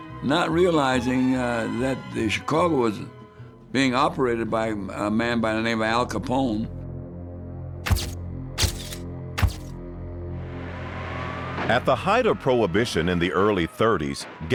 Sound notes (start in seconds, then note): 6.9 ominous rumbling music; 8.6 camera shutter clicking; 9.4 gunfire exploding; 10.3 emergency siren whaling